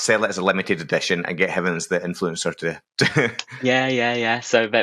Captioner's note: laughs